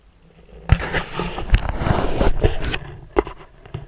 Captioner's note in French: GRINCEMENT DE PENTURE DE GoPro